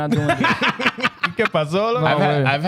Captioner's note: laughing